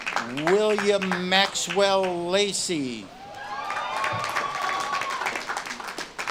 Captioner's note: audience claps and cheers